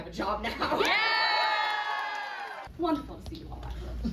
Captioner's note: crowd cheers